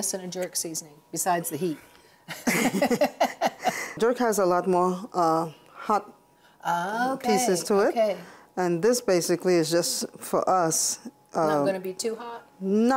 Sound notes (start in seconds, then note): 2.2 both laughing